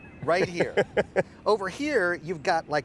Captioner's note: Aaron laughs